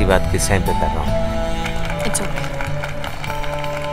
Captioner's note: Everybody clapping